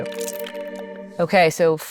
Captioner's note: dice rattling